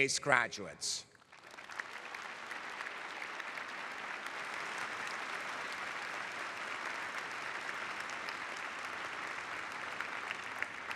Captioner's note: applause